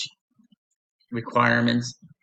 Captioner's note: pause